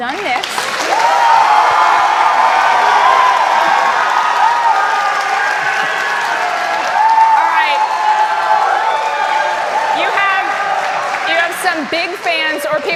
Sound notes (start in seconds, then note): 2.0 cheers and applause